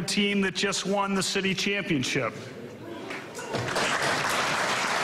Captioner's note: laughter